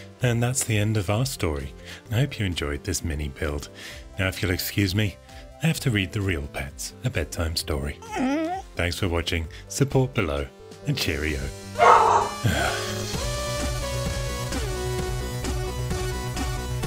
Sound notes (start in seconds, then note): 8.0 dog whimpering; 11.8 dog barking; 12.0 sighing; 12.2 retro techno music